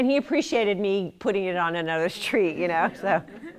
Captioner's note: laughter